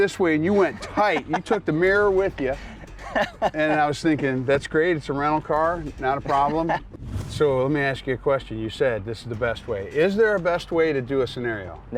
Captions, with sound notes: and you went tight, you took the mirror with you, (laughing) and I was thinking, "That's great. It's a rental car, not a problem." So let me ask you a question; you said this is the best way. Is there a best way to do a scenario?